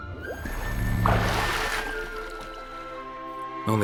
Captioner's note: water splashing